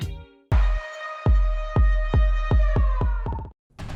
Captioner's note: groovy music; siren